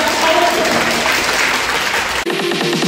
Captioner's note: applause